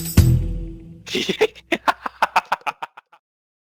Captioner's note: laughs